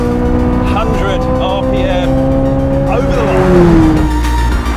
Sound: engine roaring

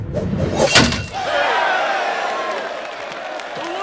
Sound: crowd cheering

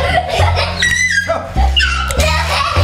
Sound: scoffs

